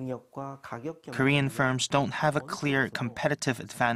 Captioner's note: Korean